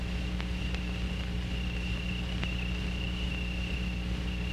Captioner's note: crickets chirping